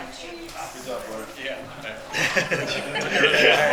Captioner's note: attendees chatter; attendees laugh